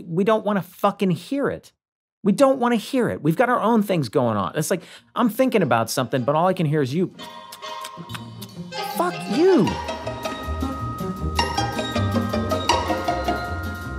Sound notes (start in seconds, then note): 7.2 kindly music; 7.2 smacks gums